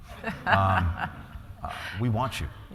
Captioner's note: laughter